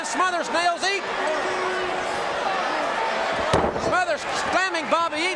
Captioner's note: audience cheering